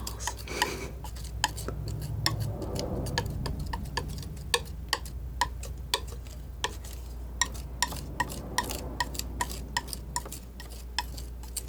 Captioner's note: tapping